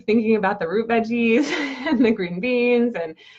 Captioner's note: laughs